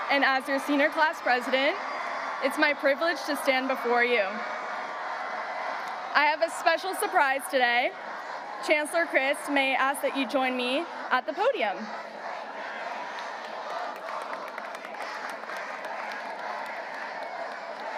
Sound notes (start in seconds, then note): 12.5 students chanting; 14.6 audience applauding